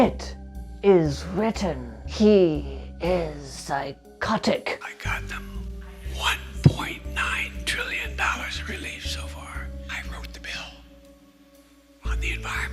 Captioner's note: Joe Biden whispering